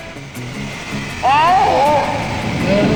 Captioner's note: groaning